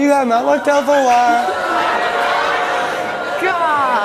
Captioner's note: audience laughs